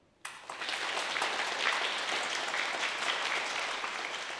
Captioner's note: audience applauding